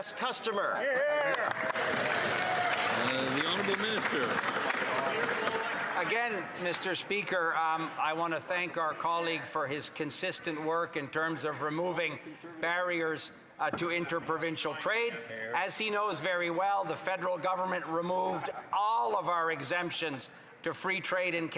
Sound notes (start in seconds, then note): 6.4 some Applause